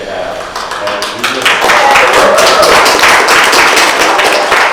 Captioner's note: audience clapping